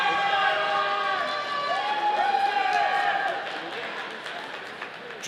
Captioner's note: audience applauding